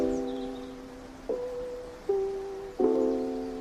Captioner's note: birds chirping